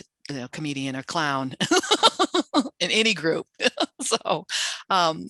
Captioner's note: laughs